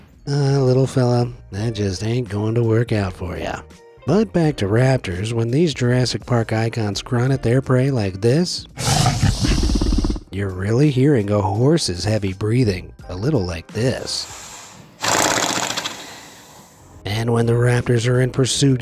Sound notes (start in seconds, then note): 8.8 raptor snarls; 14.9 horse snorts